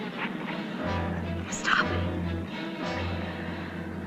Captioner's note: whispering